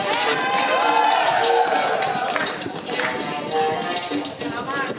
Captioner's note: audience cheering